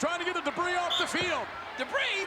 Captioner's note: referee whistling